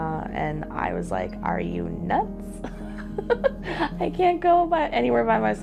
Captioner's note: laughing